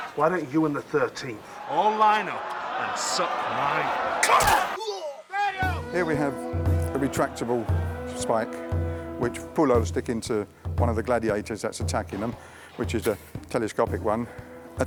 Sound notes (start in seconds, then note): 4.8 groans